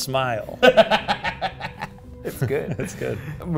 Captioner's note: laughing